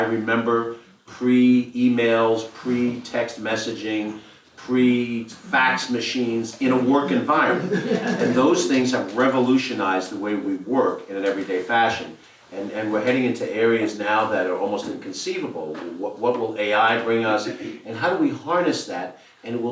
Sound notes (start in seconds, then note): 6.9 laugh